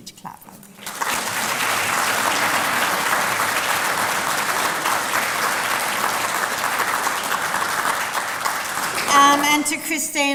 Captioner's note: applause